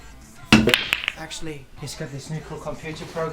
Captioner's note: billiard balls clicking